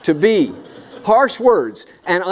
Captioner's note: laughter